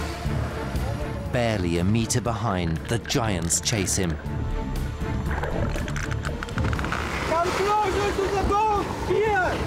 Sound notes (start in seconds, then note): 5.6 rapid clicking